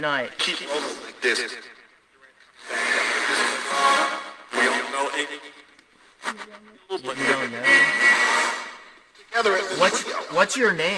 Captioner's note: radio static